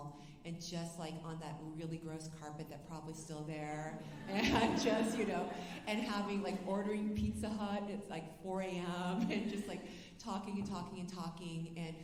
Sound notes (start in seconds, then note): 4.0 alumni laughing